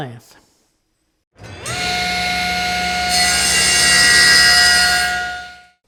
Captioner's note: miter gauge cutting